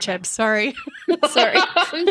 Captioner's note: laughing